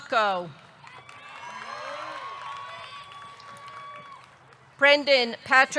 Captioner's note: audience clapping; audience cheering